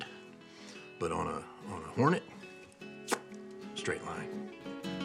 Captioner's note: exhales